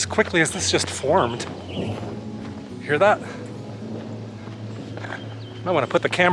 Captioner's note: thunder rumbles